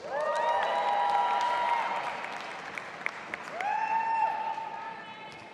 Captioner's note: audience applauding and cheering